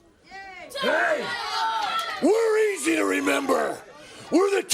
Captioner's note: crowd chatter